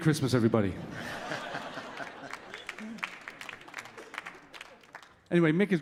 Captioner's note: audience laughing and clapping